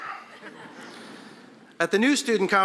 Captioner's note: audience laughing